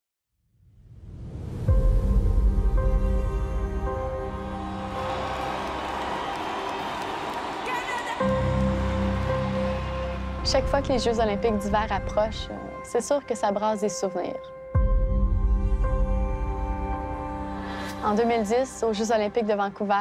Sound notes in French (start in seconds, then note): 1.7 acclamations; 1.7 indicatif musical